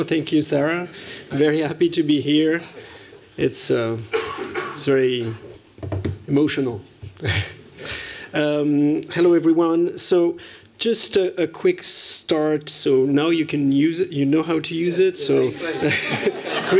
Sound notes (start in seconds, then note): 7.1 chuckling; 15.6 laughter